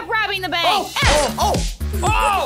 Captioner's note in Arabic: نيران البنادق